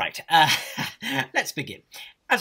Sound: awkward laugh

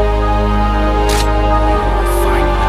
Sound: gun rattles

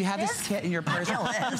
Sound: laughter

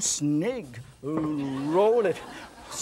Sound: audience laughs

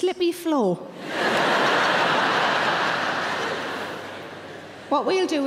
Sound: audience laughing

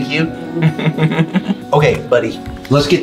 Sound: laughs

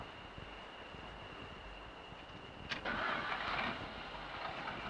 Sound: starts car

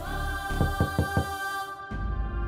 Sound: knocks on the door

